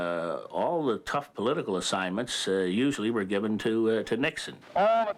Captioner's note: none